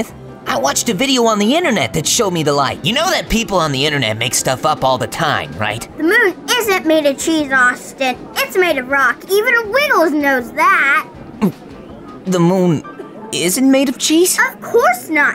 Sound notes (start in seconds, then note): 11.4 Austin gulps